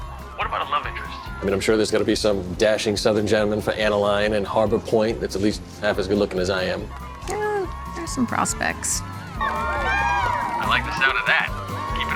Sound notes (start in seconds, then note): 9.5 cheering